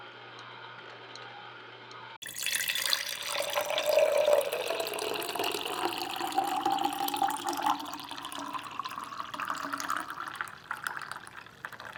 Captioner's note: pouring sounds